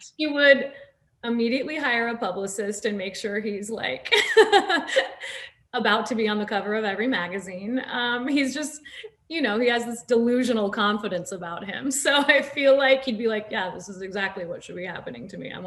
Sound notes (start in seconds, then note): 4.1 Nasim laughs